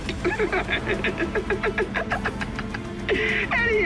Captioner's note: laughs